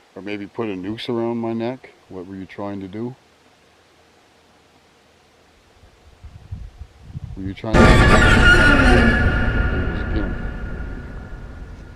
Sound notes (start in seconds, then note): 7.7 screaming